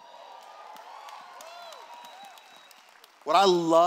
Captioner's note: cheers